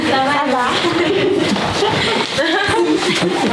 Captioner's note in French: rires